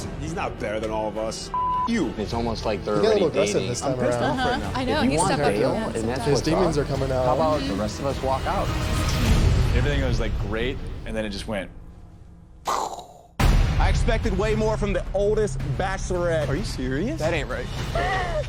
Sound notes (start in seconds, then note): 1.5 beep